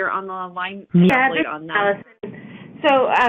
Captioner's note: interference